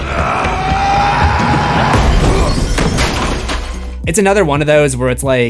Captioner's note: screams